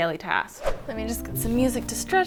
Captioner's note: air whooshing